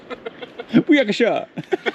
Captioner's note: laughing